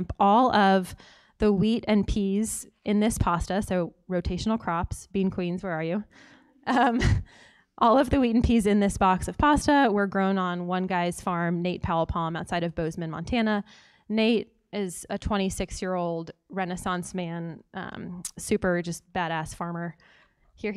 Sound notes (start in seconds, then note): 6.9 laugh